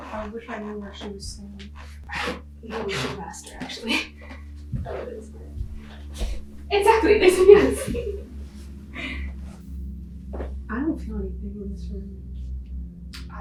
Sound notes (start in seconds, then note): 9.3 laughing